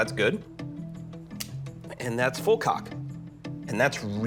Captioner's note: click